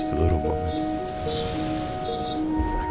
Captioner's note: birds tweeting